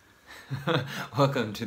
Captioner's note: laughs